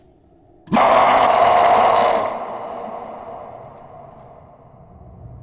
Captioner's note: creature growling